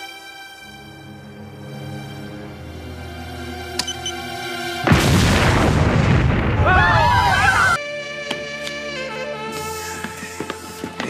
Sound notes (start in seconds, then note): 0.1 suspenseful music; 3.7 device beeps; 6.5 group screams; 7.8 jazzy music